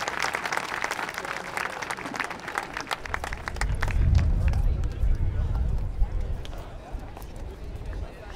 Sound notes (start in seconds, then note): 5.1 audience chatter